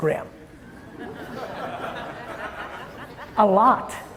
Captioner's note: audience chuckling